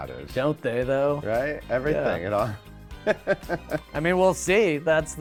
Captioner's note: laughs